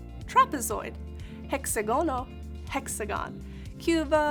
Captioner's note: speaking in Spanish